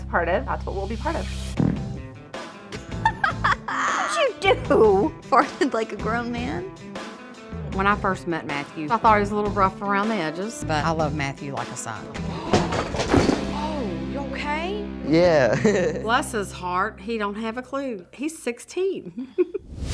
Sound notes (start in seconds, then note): 1.5 farts; 2.7 laughter